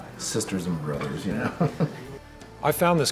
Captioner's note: laughs